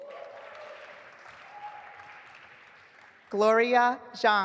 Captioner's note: audience applauding